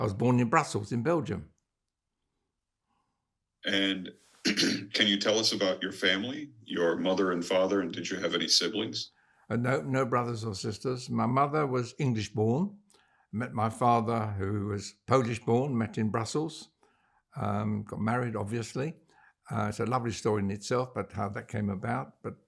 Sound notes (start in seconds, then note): 4.4 clears throat